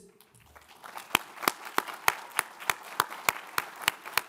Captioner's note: all applaud